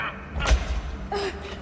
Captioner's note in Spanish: Golpes